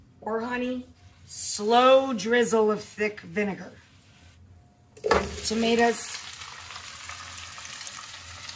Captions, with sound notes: or honey. Slow drizzle of thick vinegar. (tomatoes sizzle) Tomatoes.